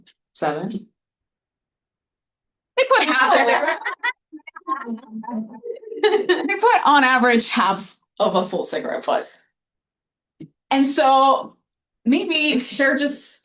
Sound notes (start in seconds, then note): 3.0 audience laughing